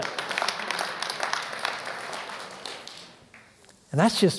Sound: applause

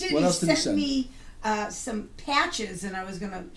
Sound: voiceover

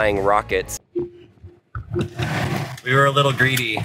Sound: infotainment system chiming

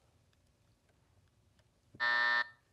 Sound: buzzer

